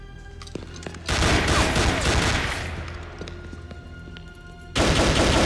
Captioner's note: gunfire clattering